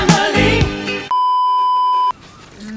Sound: beeeeeep

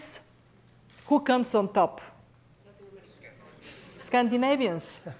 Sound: audience mutters

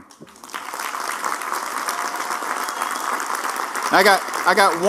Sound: applause

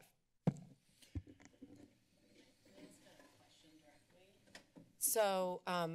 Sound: background conversations

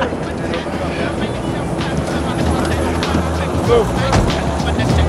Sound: helicopter whirring

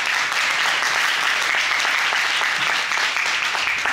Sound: audience applauding

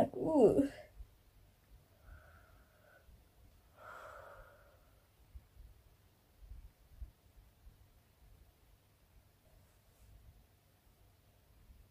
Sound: pure silence while praying and reading the Bible

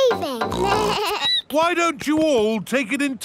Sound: snorts; bleats

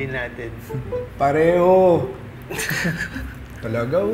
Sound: both chuckles

